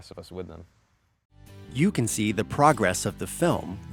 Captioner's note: voiceover